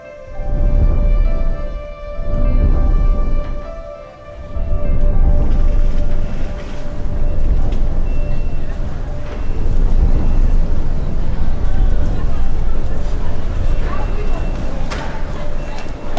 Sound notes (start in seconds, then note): 7.1 voices murmuring